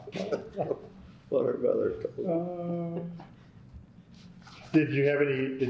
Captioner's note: laughter